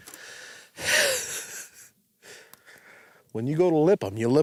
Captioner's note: laughs